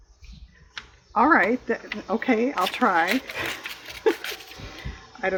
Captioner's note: laughs